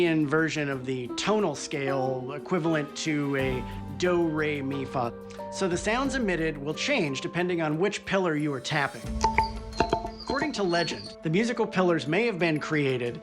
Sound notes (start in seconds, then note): 9.1 pillar ringing